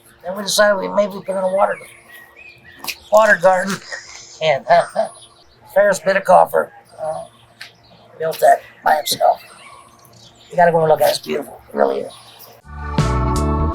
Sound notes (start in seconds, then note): 3.2 laughs